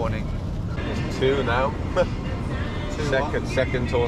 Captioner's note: chuckles